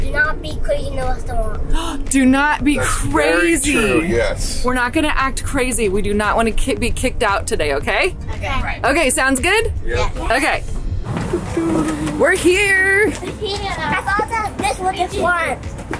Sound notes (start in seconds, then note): 1.7 gasps; 10.7 hums